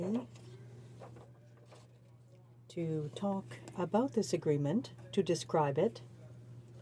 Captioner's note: speaking French